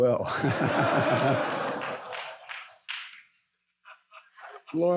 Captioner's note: audience laughs